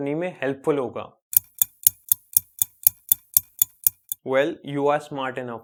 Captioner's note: clock Ticking